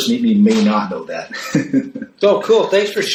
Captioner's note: laughs